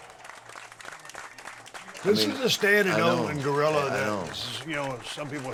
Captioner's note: applause